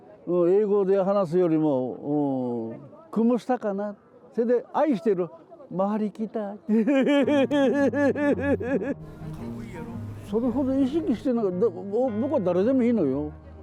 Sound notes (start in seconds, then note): 3.8 Tagalog